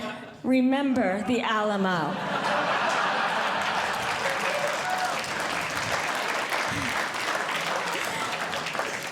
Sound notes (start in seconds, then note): 2.0 audience Laughing; 5.0 audience Clapping